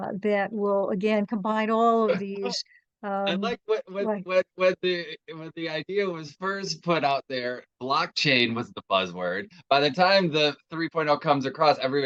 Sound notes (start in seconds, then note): 3.3 chuckles